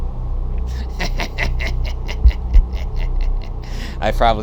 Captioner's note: laughs